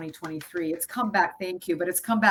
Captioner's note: claps